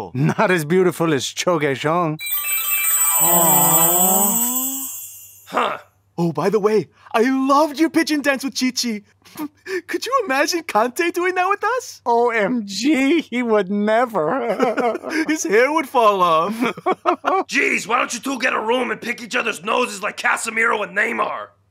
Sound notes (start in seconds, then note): 2.2 glittery sound; 9.1 laughing; 14.4 laughing; 16.5 laughing